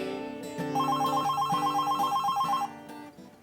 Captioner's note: phone ringing